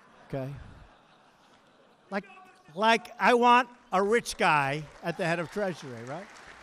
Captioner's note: laughter